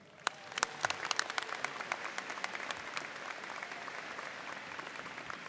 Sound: audience cheering and applauding

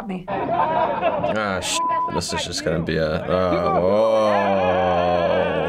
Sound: "Freddy Krueger" shouts; men scream

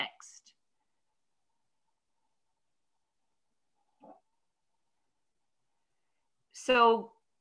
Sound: silent

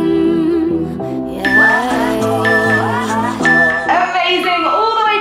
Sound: timer beeping

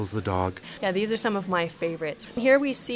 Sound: voiceover

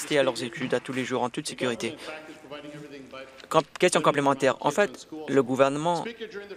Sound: some Applause

